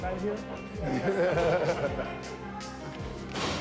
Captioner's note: laughing